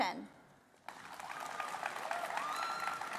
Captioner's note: applause